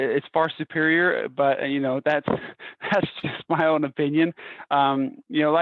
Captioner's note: laughter